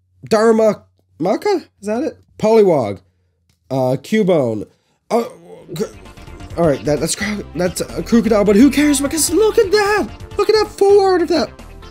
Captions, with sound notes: Daru...maka? Is that it? Also, Poliwag, a Cubone, and...oh my...that's...(gasp) that's a Krookodile but who cares? I mean just look at that! Look at that full art of that...